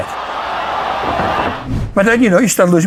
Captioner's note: audience cheering